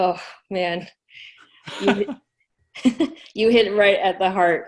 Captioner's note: laughs